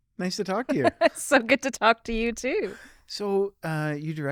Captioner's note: laughs